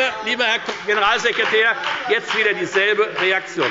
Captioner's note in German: Beifall bei der FDP